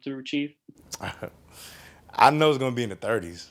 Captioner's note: chuckling